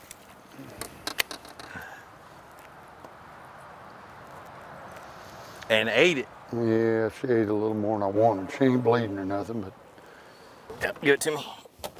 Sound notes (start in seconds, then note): 0.9 calm wind blowing